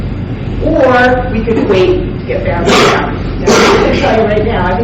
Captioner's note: coughing drowns out speaker